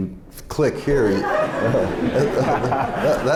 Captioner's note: laughter